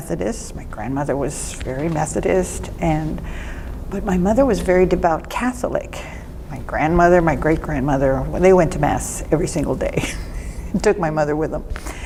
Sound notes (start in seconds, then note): 9.5 laughs